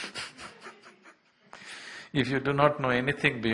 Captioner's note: laughs